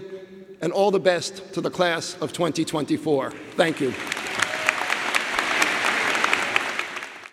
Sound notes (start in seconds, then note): 3.4 audience applauding